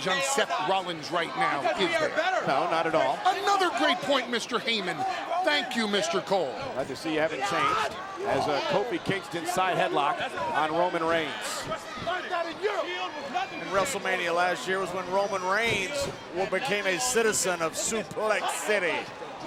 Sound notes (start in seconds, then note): 11.5 crowd calls out randomly